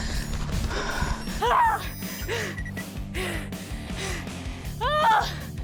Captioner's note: panting; screams; shouts